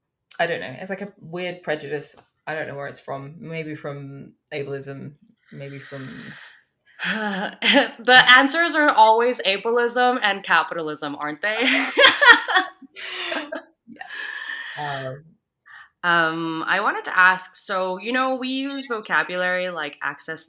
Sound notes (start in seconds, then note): 6.9 sighs; 11.6 both laughs